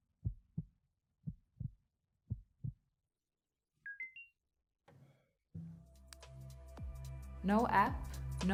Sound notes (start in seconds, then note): 3.9 beeping sound; 5.9 upbeat music